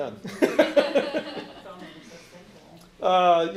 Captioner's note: laughing